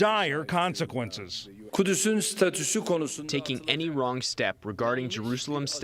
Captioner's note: through translator